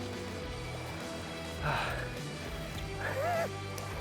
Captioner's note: sighs, laughs